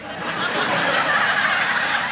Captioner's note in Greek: γέλια